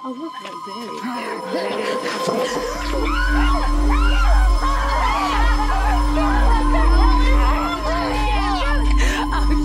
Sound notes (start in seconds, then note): 2.4 growls; 2.8 screaming